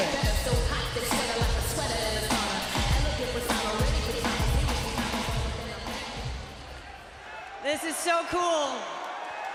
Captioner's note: crowd chatter